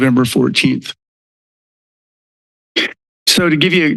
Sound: silence

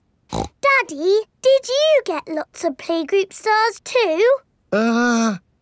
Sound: snorts

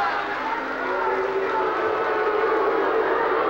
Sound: booing

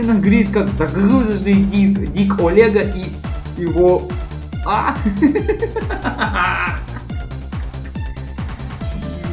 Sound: laugh

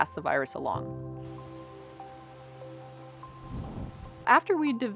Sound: wind in trees

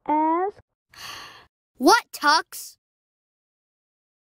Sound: sigh

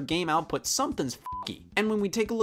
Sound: beep

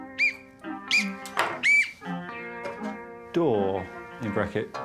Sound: whistling

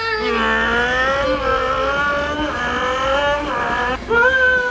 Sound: vrooming noises

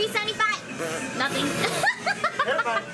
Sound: laughing

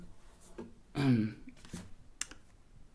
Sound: clears throat

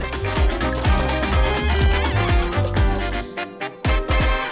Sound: timer ticking

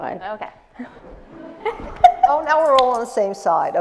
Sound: laughs

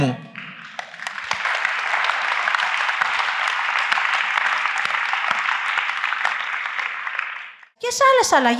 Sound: applause

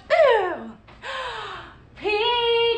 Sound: gasping

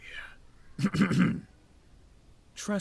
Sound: clears Throat

